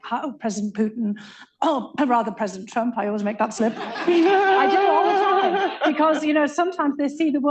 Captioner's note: laughter